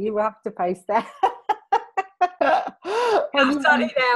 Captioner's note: laughing